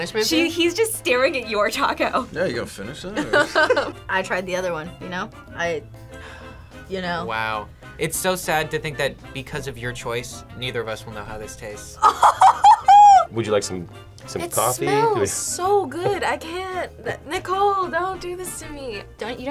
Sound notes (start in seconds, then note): 3.1 both laugh; 12.0 laughs